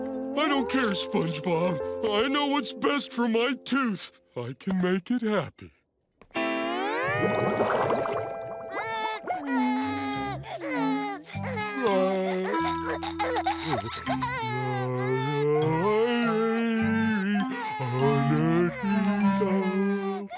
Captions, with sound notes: I don't care, SpongeBob. I know what's best for my tooth. I can make it happy. [crying] [singing]